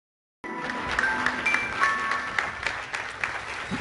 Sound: applause

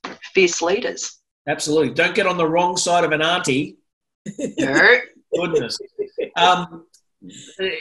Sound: laughter

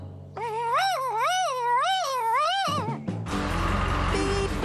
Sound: bird exclaiming

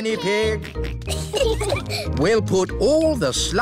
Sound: peppa and george giggling

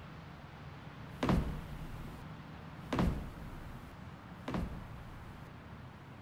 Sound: foot steps

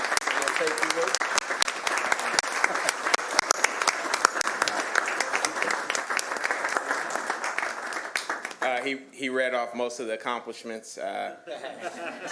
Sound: applause

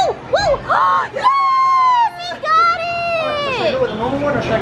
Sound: cheering

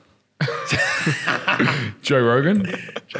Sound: laughing

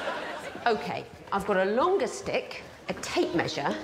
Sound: audience laughing

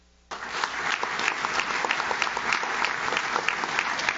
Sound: audience claps

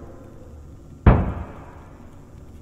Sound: thudding noise

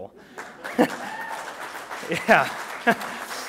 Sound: applause

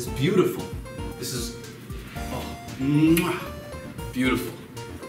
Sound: kiss noise

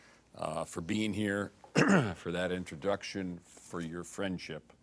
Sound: clears throat

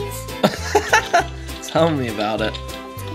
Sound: laughs

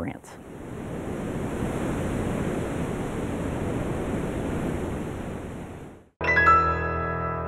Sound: surf roaring

